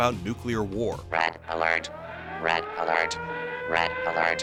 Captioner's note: robotic voie